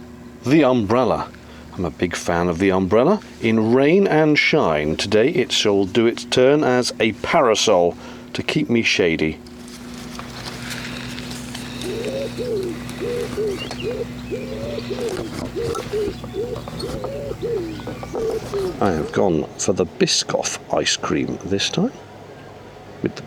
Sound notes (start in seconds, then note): 11.1 breathing, bird noises and a waft from the brolly